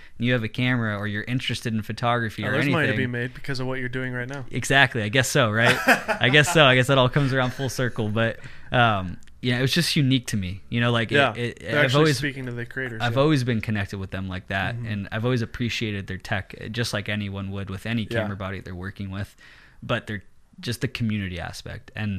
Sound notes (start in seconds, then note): 5.6 laughing